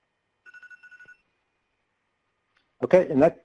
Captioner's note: rapid beeping